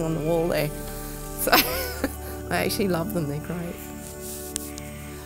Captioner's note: laughs